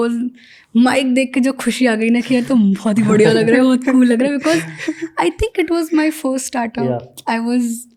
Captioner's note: speaks in Hindi